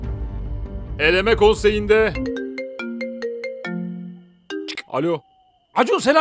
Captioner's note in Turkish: telefon çalar